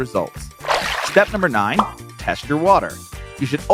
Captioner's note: water splashes